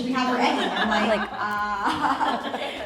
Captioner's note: laughs